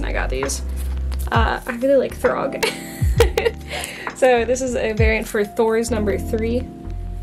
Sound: laughs

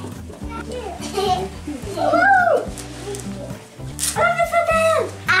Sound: children laughing

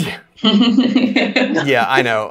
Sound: panels laughs

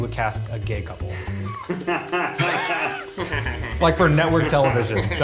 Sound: Keith laughs

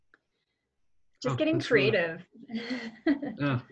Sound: laughs

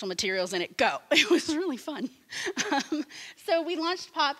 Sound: laughing

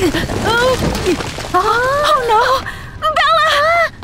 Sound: Hana gasps

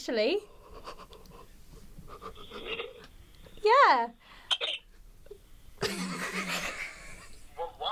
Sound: whisper-giggle

